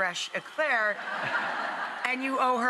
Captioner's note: audience laughing